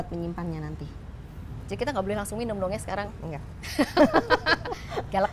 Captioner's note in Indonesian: laughing